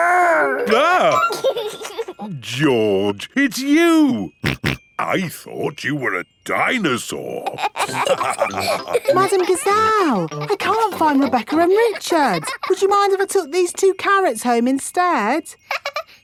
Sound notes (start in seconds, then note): 0.0 exclaims; 0.5 giggles; 4.4 snorting; 7.5 all laughing; 15.6 laughs